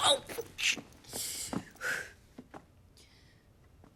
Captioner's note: sighs